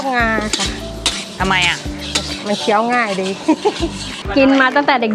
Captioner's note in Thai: เสียงหัวเราะ